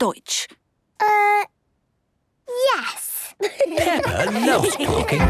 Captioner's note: laughter